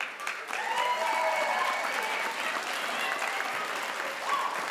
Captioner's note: crowd applauds